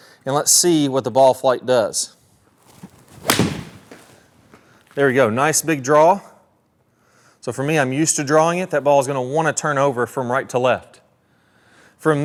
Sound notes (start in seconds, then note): 2.6 golf ball pings